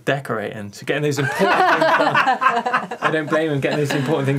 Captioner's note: laughing